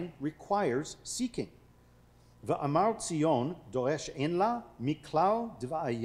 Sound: speaking foreign language

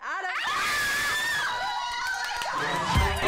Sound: screaming

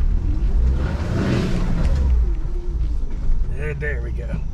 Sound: engine revving

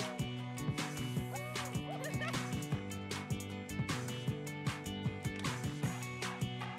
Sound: both laughing

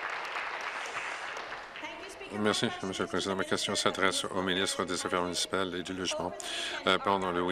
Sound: applause

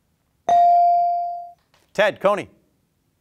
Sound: bell ringing

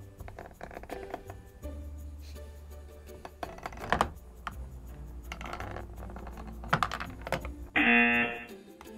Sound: hippo squeaks; buzzer rings

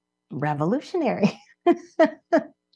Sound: laughs

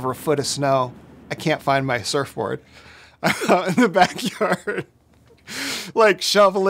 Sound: laughs

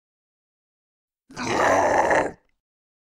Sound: mutant scream

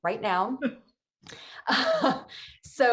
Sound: giggling

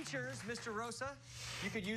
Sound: applause

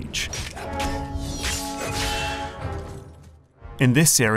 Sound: sword swipes

